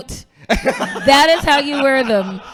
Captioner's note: laughing